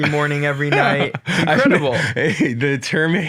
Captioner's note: laughs